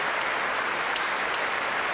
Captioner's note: applause